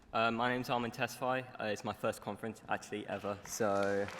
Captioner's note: applause